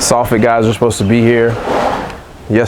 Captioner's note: none